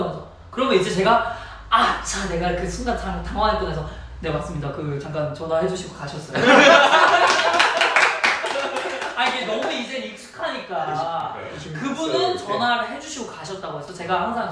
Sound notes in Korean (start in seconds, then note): 6.4 박장대소; 6.4 웃음폭탄